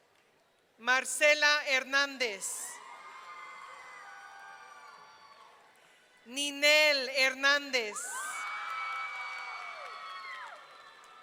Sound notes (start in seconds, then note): 2.7 audience cheering; 8.1 audience cheering